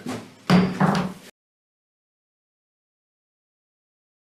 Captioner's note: hammering gavel